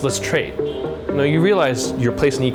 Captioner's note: horn honks